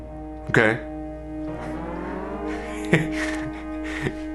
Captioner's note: laughing